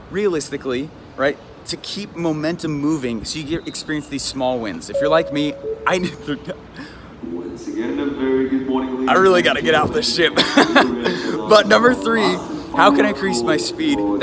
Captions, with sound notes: Realistically, right, to keep momentum moving, so you get to experience these small wins. If you're like me... (bell chiming) (muffled announcement) I really gotta get off this ship (laughing). But number three, how can I increase my speed,